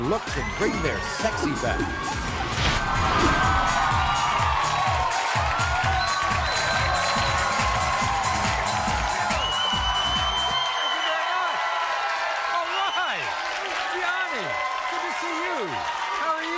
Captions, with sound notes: to bring their sexy back. (audience cheering) (bass-heavy music) - Thank you very much, all right. Gianni good to see you, how are you?